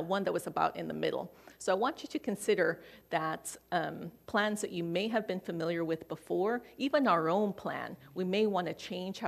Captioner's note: none